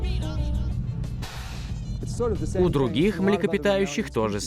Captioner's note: air hissing